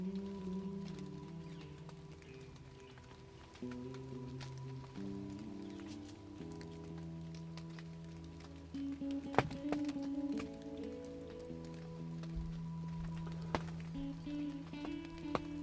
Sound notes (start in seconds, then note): 6.4 deer hooves crunching; 9.8 raindrops falling